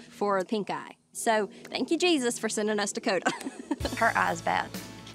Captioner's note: chuckles